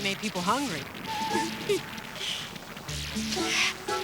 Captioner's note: giggles